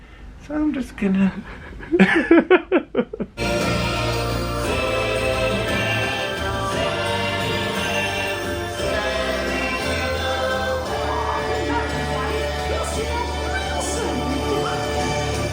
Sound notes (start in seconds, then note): 1.3 laughs